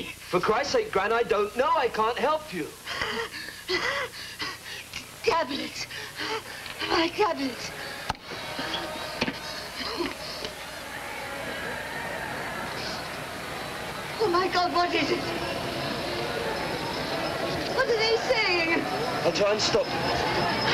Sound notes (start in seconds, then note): 5.8 she breathes with difficulty; 10.1 approach of crowd, marching along street outside